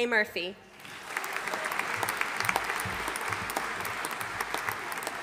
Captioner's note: audience applauding